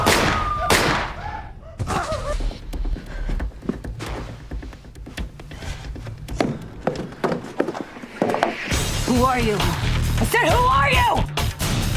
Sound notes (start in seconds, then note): 6.6 footsteps tapping